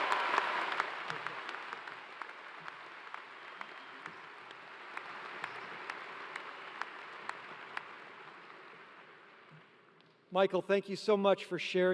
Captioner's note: cheers and applause